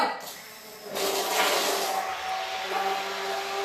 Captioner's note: whirring